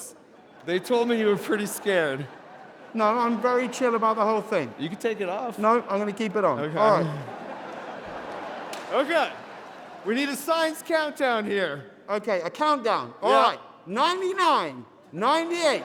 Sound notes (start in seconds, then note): 6.4 audience laughing